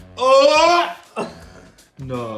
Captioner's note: retching